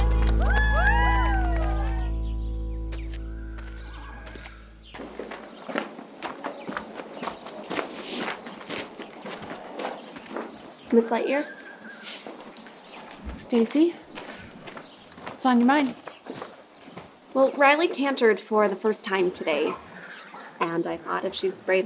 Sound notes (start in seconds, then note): 0.0 campers faintly cheering; 3.4 horse whinnying